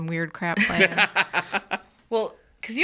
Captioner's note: laughs